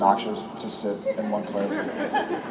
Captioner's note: audience laughs